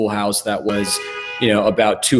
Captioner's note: car honks